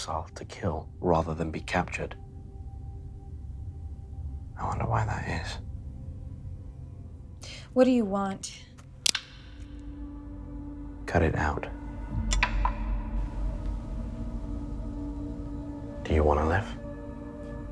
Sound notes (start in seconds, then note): 9.0 blade clicks; 12.6 tense music